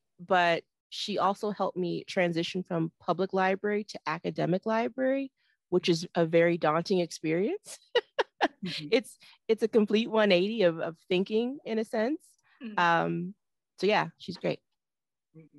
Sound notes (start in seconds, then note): 8.1 laughs